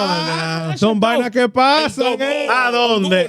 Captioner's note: speaking In Foreign Language